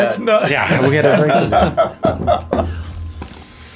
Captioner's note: laughing